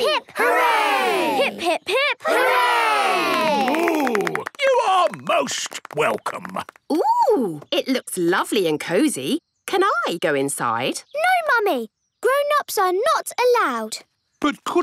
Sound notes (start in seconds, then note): 2.8 applause